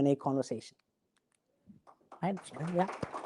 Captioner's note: applauding